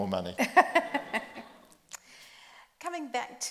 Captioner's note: group laughs